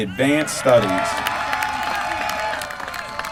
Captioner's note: applause